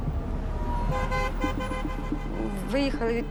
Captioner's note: horns honking